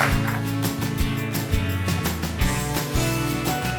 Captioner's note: audience clapping; upbeat music